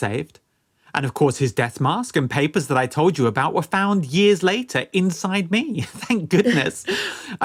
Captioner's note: laughs